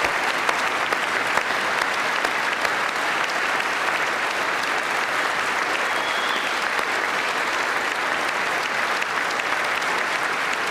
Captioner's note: applause